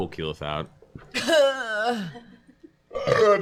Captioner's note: coughing